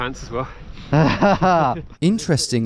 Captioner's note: both laughing